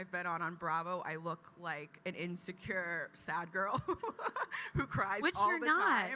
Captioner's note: chuckles